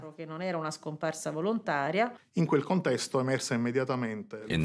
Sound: speaking in Italian

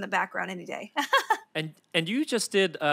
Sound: Felicia laughs

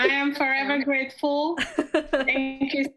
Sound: laughs

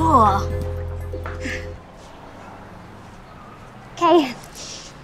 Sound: chuckles

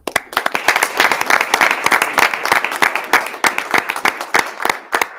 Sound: audience applauding

